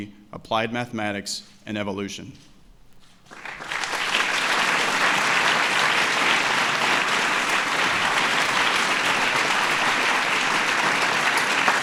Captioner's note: applause